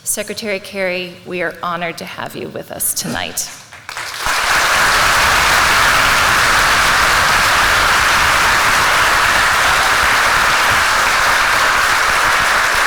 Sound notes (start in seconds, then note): 3.6 applause